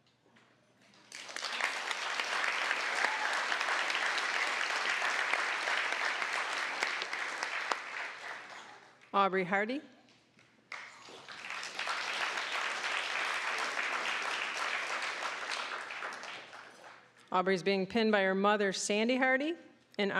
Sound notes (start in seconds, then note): 0.9 applause; 10.7 applause